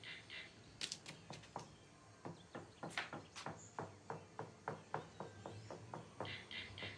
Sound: knocking on the wall

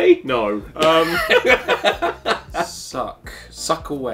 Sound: laughs

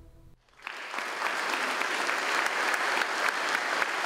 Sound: audience applauds

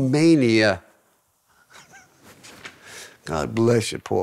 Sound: laughing

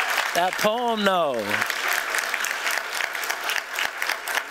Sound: applause

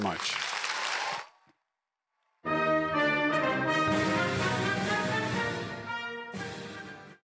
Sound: applause

